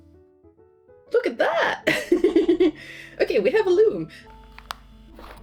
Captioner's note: laughs